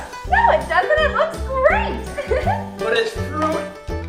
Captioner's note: laughing